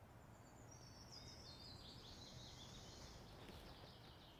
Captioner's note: birds singing